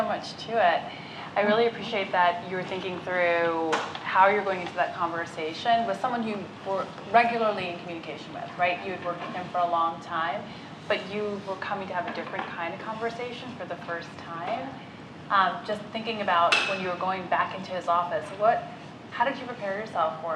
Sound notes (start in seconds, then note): none